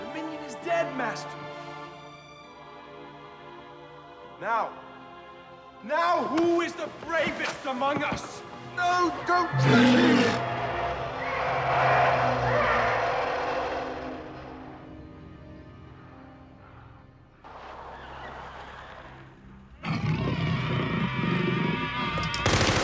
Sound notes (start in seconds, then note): 9.4 minion roars; 11.7 wild animal squawks; 18.2 tires screech; 19.8 growls